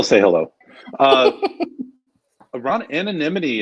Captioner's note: laughing